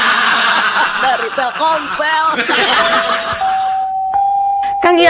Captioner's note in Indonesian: tertawa